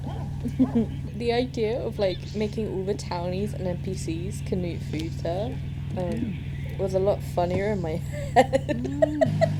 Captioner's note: laughs